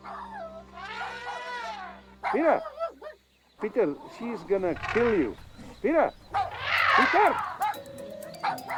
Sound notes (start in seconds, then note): 2.2 barks; 6.8 trumpets